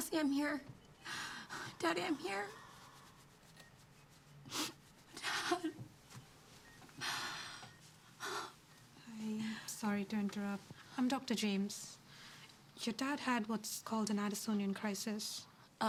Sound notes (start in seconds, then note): 7.2 Cassie crying